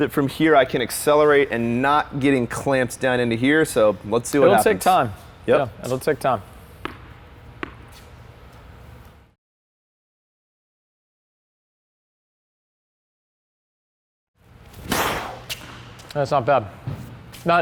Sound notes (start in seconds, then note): 14.8 racket hitting the ball